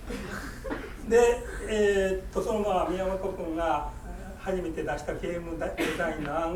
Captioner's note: coughing; speaking in foreign language; coughing